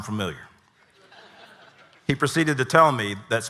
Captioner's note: audience laughing